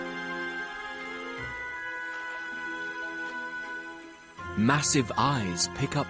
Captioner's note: tense music continues; insects buzzing